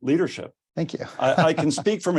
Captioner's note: chuckles